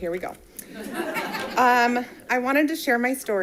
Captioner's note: audience laughing